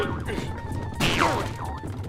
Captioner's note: shouts; groans